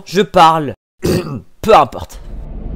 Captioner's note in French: tousse